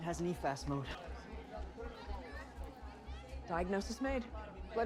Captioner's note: hospital staff chattering